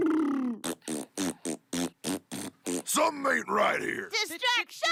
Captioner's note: sputtering; blowing raspberries